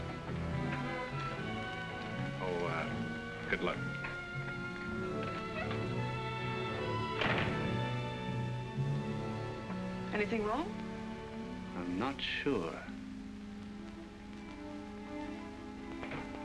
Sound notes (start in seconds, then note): 6.4 door closes